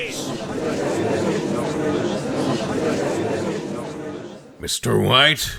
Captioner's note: gallery chattering